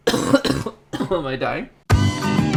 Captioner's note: coughs